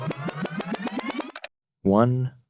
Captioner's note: audio forwarding sound; click sound